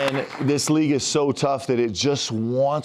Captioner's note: cheers and applause